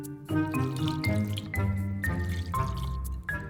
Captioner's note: dairy free milk pouring